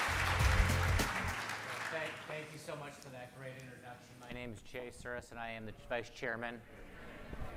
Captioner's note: applause